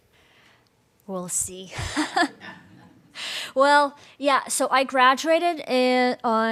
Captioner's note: laughter